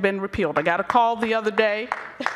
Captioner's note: applause